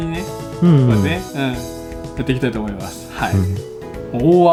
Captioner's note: laughs; laughs